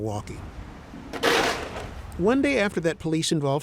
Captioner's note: items thumping